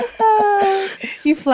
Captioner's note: laughing